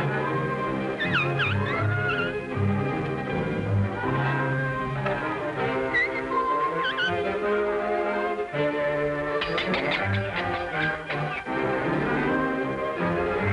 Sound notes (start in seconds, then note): 9.3 metal clanging